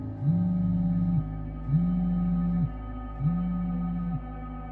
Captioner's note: cell phone vibrating